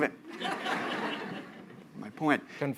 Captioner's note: laughter